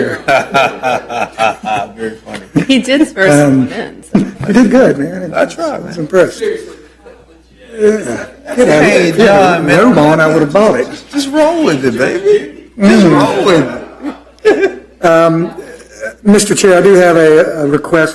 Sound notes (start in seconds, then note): 5.3 laughter